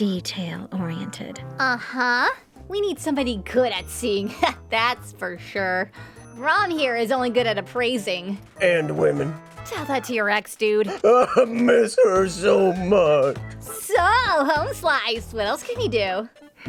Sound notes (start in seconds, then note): 10.8 Rom Sobbing